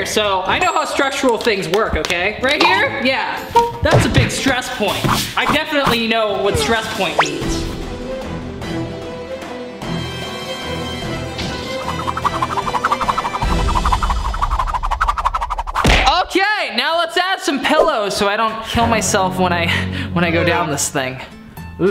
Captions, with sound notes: so I know how structural things work, okay? Right here? Yeah, that's a big stress point. I definitely know what stress point means. (tense music) (air whooshes) Okay. Now, let's add some pillows so I don't kill myself when I go down this thing.